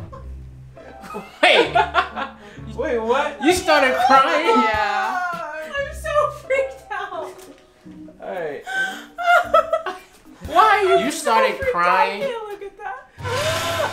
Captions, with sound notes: (laughs) - Wait. Wait what? You started crying. - Yeah. I'm so freaked out. - Hey. (laughs) You started crying?